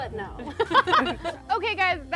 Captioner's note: group laughs